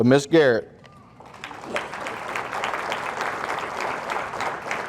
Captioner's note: audience applauding